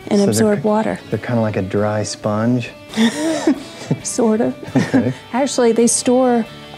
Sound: laughs

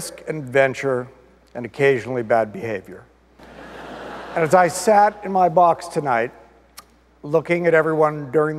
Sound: audience laughter

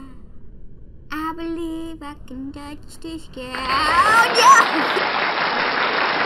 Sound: applause

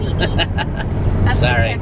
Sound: laughs

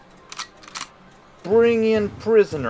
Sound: gun cocking

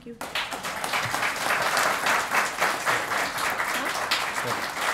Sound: applause

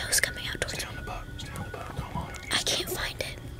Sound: whispering

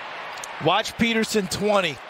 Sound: cheers and applause

